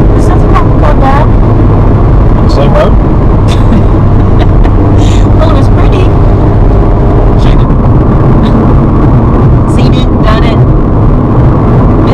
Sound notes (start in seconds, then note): 3.5 laughs